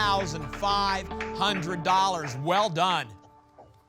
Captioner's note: applause